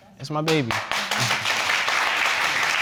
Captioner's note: audience applauding